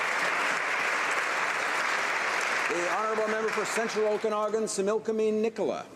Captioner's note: applause